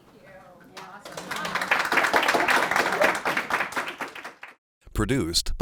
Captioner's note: applause